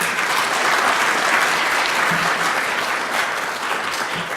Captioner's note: clapping